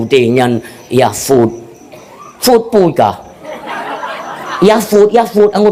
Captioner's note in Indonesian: tertawa